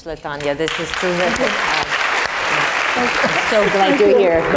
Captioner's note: applause